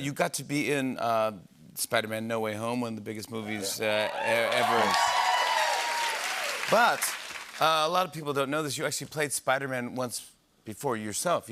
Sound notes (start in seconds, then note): 3.9 cheers and applause